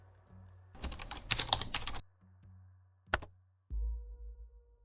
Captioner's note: keyboard clacking